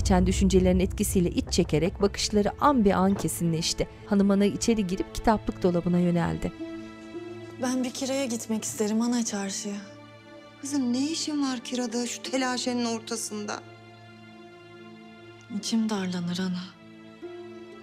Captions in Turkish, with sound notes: (Kapı açılma sesi) Ben bir Kira'ya gitmek isterim ana çarşıya. Kızım ne işin var Kira'da şu telaşenin ortasında. İçim darlanır ana.